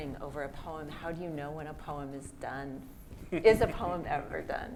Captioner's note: laughs